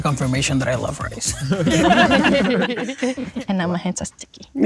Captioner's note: group laughing